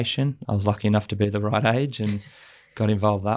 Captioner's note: laughs